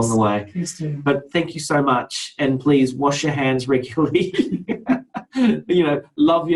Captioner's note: laughs